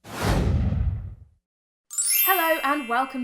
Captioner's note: chimes